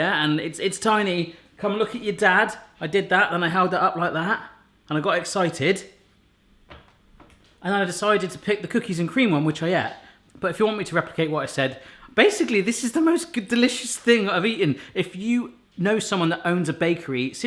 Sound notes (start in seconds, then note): none